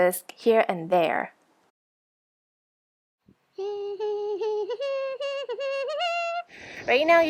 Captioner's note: humming